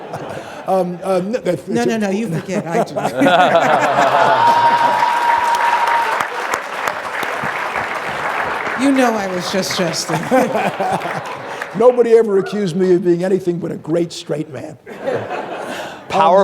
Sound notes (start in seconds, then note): 0.0 audience laughing; 3.6 audience laughing; 4.7 audience clapping; 14.8 audience laughing